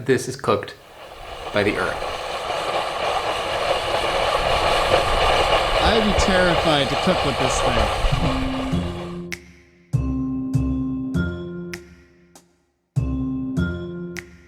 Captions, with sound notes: this is cooked by the earth. (cooker hissing) I'd be terrified to cook with this thing. (ambient music)